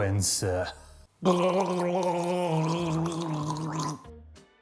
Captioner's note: gargling noises